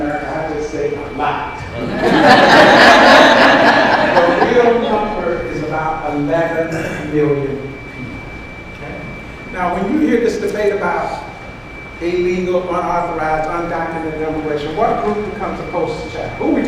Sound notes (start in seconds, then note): 1.7 audience laughs